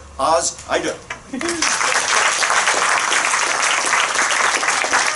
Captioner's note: applause